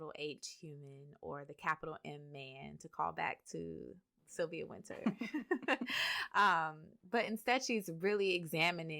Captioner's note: laughter